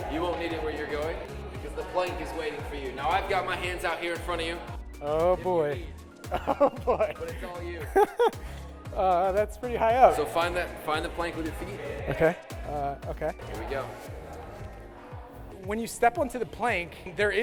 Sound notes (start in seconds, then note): 6.2 laughs